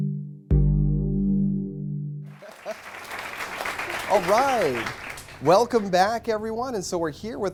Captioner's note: applause